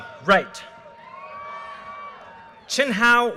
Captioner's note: audience cheers and applause